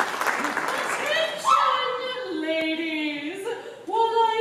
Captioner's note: laughter, applause; MELISSA yelps in surprise